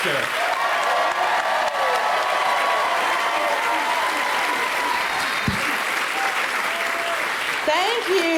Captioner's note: crowd applauds